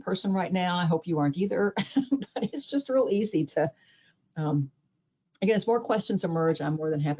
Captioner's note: chuckles